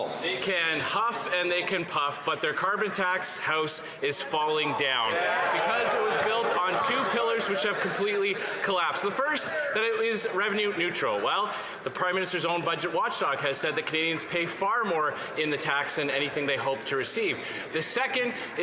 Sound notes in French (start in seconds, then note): 2.9 voix de l'interprète